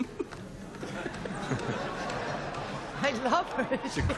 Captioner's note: laughter